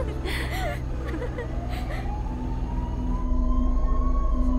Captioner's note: All giggling; Police siren blaring